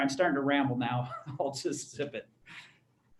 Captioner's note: laughter